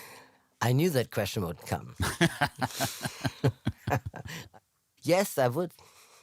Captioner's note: laughs